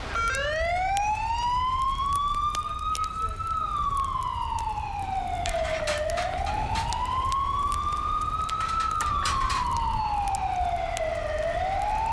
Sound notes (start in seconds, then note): 0.1 siren